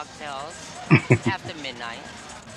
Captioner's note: chuckling